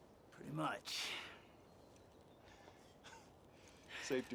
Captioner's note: chuckles